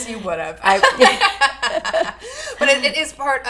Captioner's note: laughing